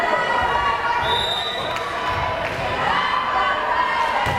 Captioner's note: whistle blares